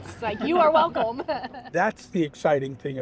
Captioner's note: group laughing